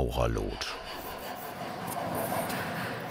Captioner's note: filing in the background